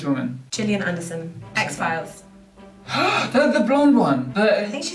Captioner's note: gasp